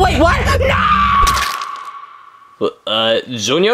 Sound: Yoshi gasping; Yoshi screams

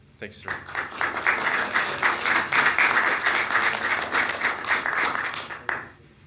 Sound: attendees and members clapping

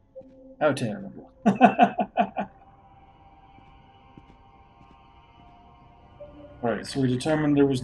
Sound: laughs

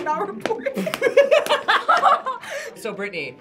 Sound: group laughs

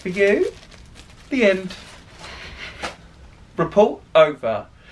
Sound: sniggering

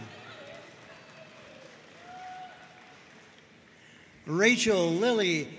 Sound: audience cheering and applauding

